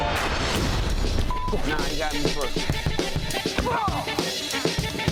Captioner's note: beep